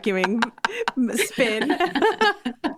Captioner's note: laughing